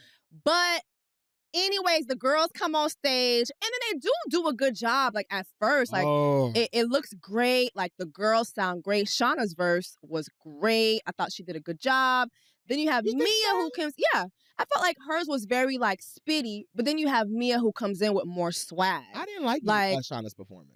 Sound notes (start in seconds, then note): 5.9 groans